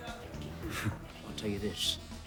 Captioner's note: John scoffs